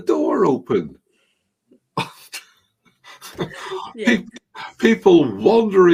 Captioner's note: both chuckling